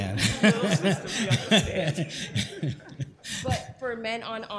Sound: laughter

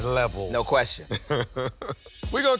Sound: laughs

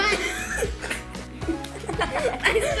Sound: giggles

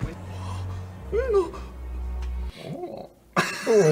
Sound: sexy noises

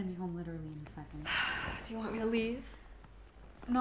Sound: Hamlet sighs

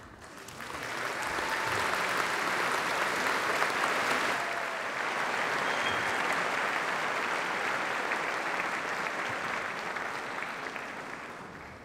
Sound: applause

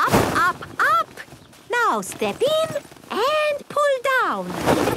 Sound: laughter

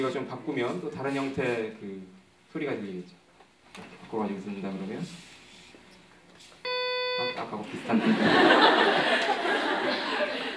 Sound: laugh

